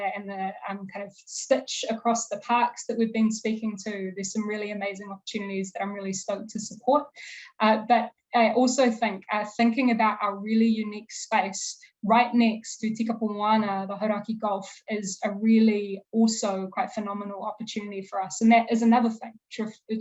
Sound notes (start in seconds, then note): 12.5 speaking foreign language